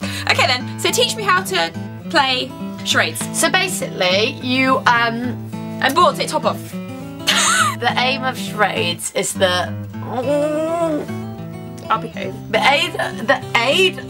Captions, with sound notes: Okay then, so teach me how to play Charades So, basically You, um I'm bored take your top off (laughs) The aim of charades is that (groans) I'll behave The aid- the aid